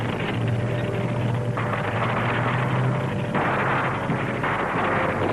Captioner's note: gunshots blasting